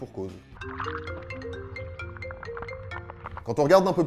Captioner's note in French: sonnerie de téléphone